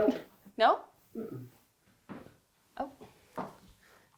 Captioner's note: humming